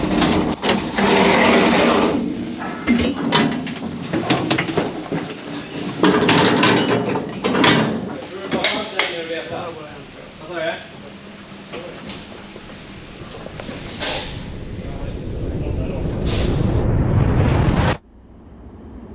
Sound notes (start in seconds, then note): 0.6 door whirs; 1.8 door clicks; 6.4 door thuds; 16.1 air whooshes